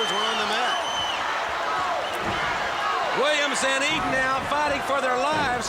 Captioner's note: applause